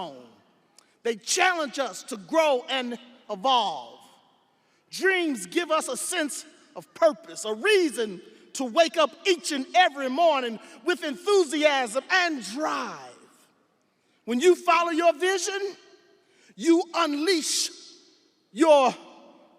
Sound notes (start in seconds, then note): none